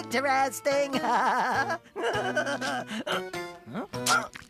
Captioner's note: giggling